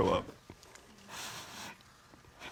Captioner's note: sniffles